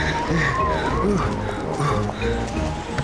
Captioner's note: panting